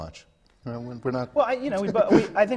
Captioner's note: laughs